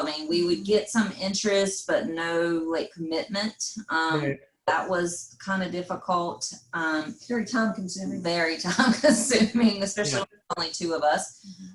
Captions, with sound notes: We would get some interest but no commitment. That was kinda difficult. - Very time-consuming. - Very time-consuming (laughs) Especially the only two of us.